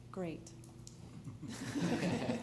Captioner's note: laughter